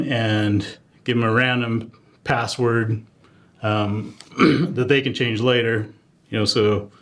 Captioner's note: cough